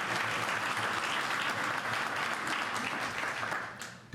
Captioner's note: applause